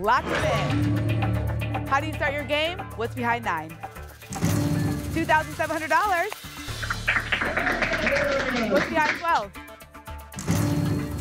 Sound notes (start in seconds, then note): 6.2 applause and cheering